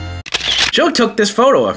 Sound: camera clicking

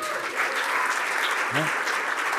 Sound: cheering and applause

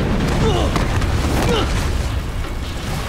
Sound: he exclaims and grunts

